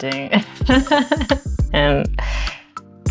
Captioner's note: laughs